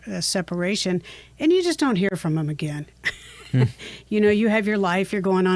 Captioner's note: chuckles